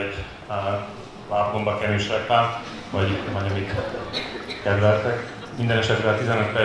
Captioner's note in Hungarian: nevetés